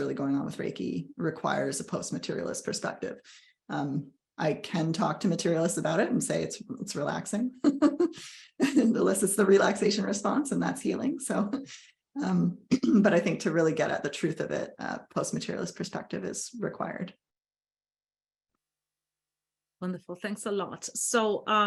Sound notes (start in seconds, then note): 7.4 laughs